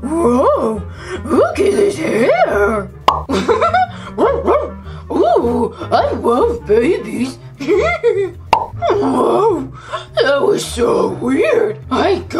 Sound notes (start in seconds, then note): 3.0 pop; 3.3 laughs; 4.2 barking; 7.6 laughs; 8.5 pop